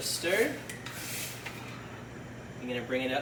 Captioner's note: ladle scrapes against pot